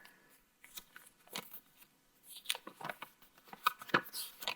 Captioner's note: paper rustling